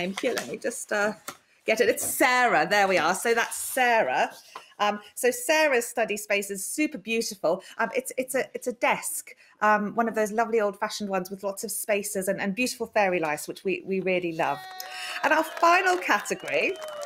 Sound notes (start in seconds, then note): 14.5 cheering